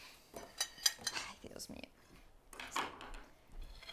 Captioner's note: plates clattering; Abuela mumbling in Spanish; abuela mumbling in Spanish continues